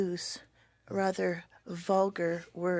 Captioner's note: speaking French